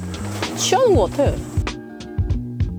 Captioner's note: Kkirini's engine is revving